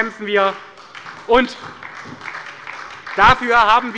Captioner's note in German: Beifall bei Abgeordneten der SPD